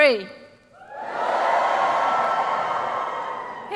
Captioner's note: cheers